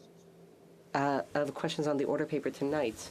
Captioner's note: speaking French